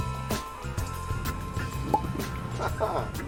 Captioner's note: cork pops